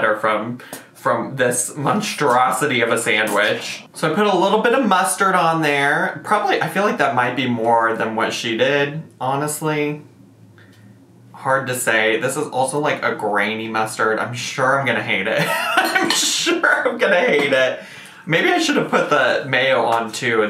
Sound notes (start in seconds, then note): 15.4 laughs